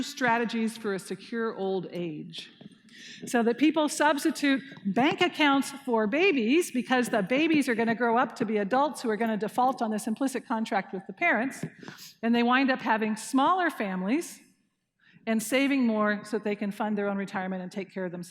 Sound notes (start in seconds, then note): none